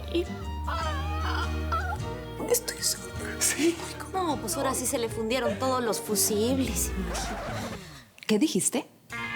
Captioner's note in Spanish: En voz baja